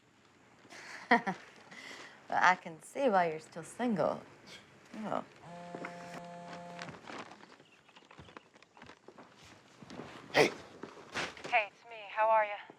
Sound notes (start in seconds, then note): 4.2 scoffs; 5.4 cell phone buzzes